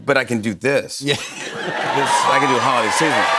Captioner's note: chuckling; cheers and applause